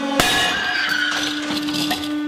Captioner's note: screams!